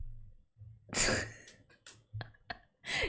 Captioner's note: laughs